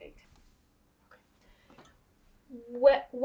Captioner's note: whispering